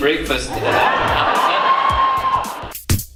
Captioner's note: crowd Laugh